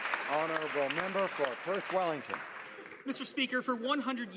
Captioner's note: some Applause